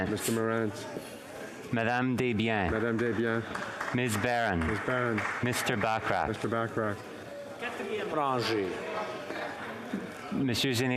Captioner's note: speaking French